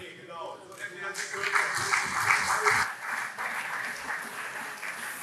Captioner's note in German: Beifall SPD und CDU